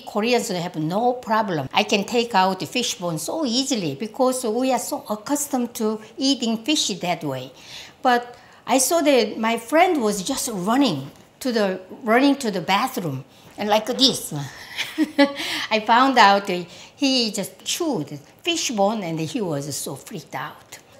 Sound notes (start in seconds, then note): 14.6 laughs